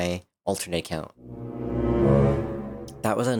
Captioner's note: sus sound